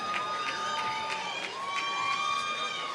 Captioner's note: applause